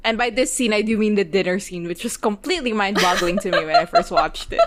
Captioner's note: laughing